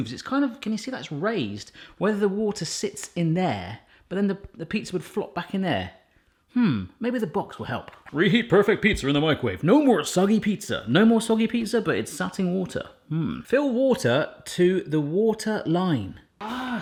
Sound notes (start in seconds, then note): 11.1 in regular accent